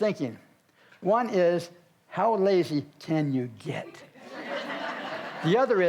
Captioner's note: audience laughs